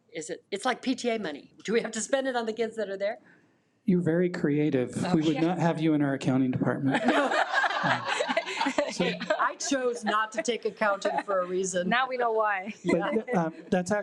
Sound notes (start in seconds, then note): 6.9 attendees laugh